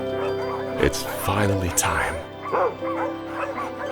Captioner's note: barks; dogs barking; gentle music